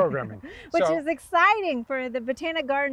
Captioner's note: chuckling